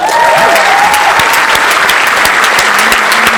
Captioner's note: applause